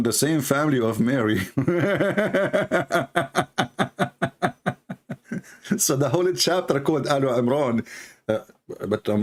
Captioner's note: Ketawa